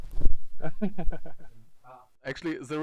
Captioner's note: laughs